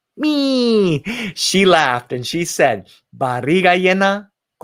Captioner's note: spoken in foreign language